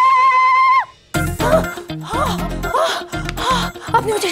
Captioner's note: Screams; Romila panting